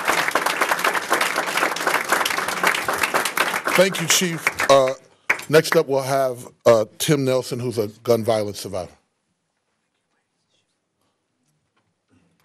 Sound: applause

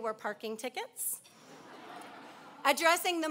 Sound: laughing

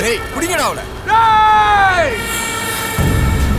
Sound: screams

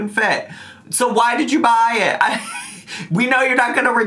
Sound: laughs

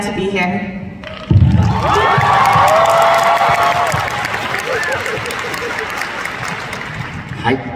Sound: applause

